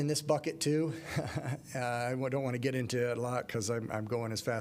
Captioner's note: laughter